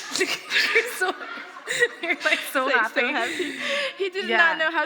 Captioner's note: laughter